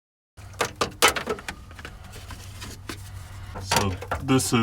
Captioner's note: banging